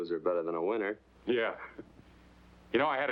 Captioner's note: chuckles